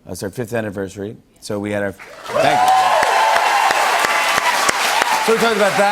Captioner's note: cheers and applause